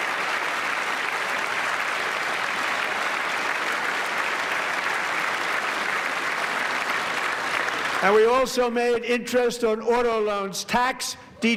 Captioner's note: applause